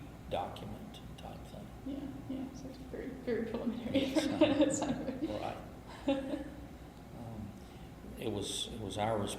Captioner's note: laughs